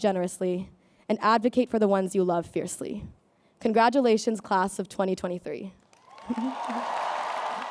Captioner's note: applause